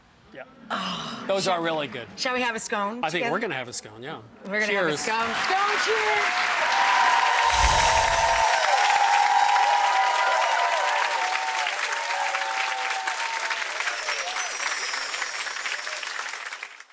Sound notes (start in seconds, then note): 6.5 audience applauding; 13.6 chimes sounding